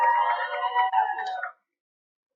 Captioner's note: cheering